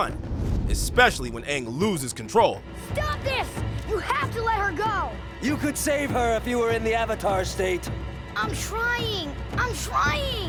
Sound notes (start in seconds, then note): none